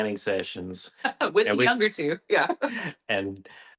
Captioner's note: laughs